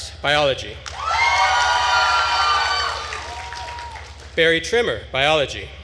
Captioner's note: attendees cheering and applauding